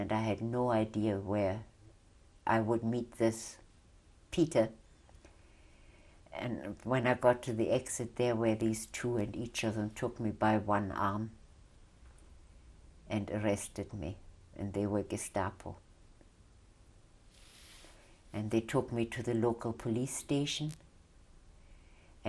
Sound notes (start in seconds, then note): 16.4 pauses for 3 seconds